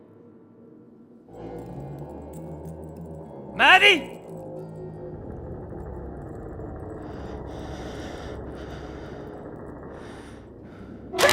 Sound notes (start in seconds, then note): 5.6 cracking noises through house